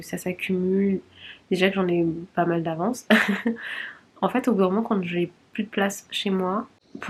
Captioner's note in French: rires